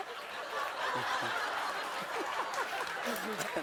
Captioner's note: laughter